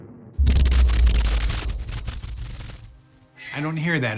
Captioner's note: thunderous boom